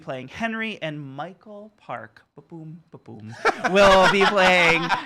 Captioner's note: laughter